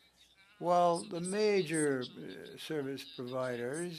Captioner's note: speaking french